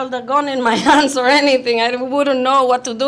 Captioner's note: chuckles